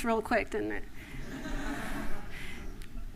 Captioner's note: laughter